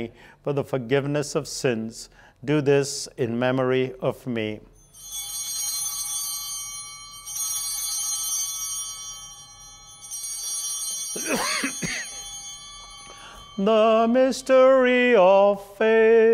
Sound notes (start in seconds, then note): 4.6 bell ringing; 11.1 coughing